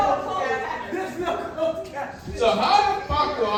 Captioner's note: laughing